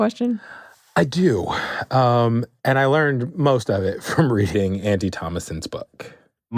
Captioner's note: laughs